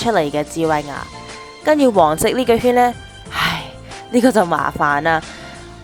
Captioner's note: sigh